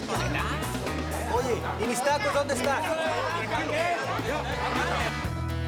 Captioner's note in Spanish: Algarabía, todos protestan